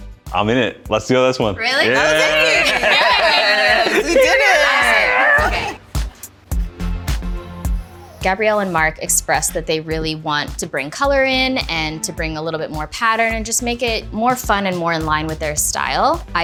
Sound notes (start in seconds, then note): 1.8 all laughing